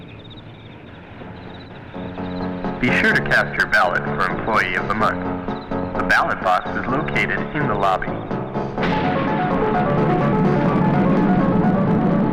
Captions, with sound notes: (uptempo music) - [Man On PA] Be sure to cast your ballot for employee of the month. The ballot box is located in the lobby. (thunder crashes)